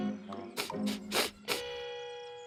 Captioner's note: sniffing